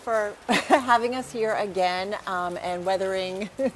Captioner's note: laugh